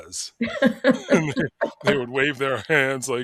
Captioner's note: both laughing